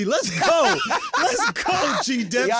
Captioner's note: laughing